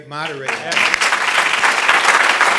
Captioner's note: applause